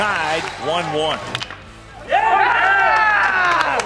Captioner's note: bat hits ball